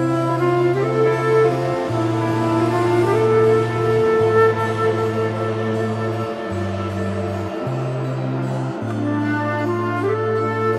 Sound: metro train moving sound

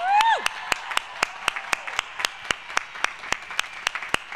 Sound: applause

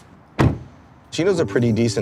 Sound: door shuts

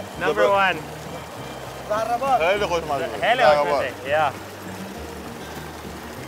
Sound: group speaking in foreign language

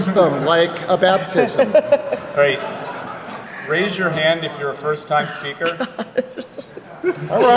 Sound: laughter

